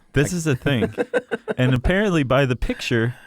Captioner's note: laughter